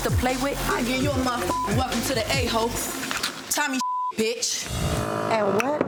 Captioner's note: beep